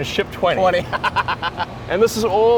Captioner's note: laughs